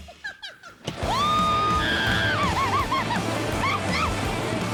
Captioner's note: screaming continues